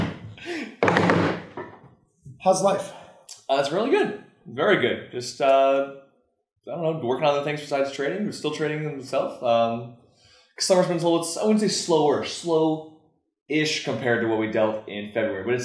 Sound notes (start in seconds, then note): 0.8 table banging